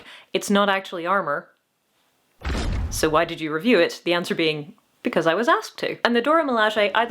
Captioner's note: thud